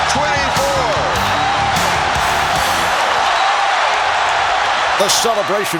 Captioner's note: cheering